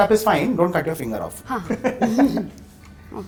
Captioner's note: giggles